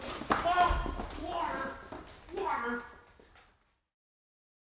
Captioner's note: indistinct crying